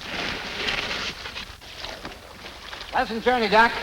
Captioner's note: boat scrapes